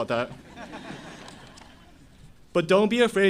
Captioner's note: audience Laughing